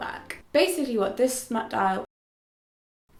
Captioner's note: stammering